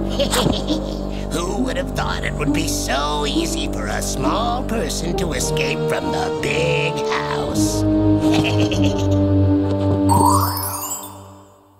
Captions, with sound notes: [evil laughter] Who would have thought it would be so easy for a small person to escape from the big house? [evil laughter]